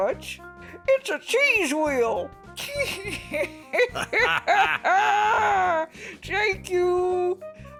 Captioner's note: laughter